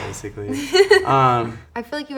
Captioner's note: laughing